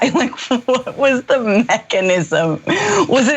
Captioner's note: laugh